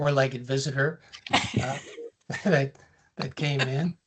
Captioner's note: laughs